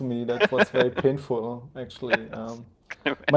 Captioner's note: laughing